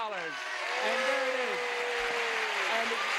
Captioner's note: audience cheers